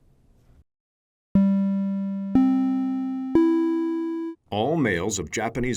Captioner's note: audio Alert